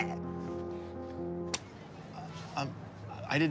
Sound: The sound of Rich's Squip facepalming

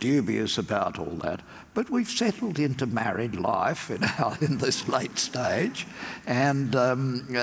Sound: laugh

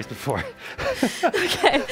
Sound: both laughs

